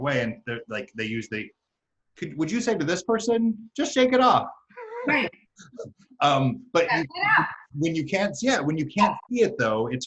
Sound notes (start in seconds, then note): 4.7 laughs